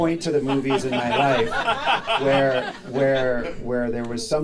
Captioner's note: audience laughing